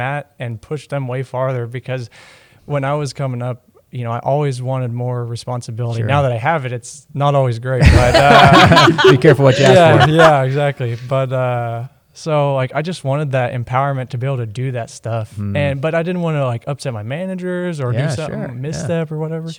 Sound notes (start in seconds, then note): 7.8 laughter